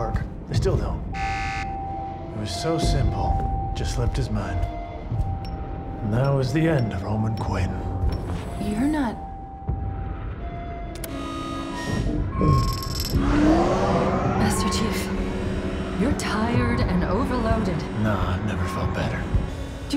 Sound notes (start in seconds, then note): 1.2 alarm beeps; 10.9 alarm blaring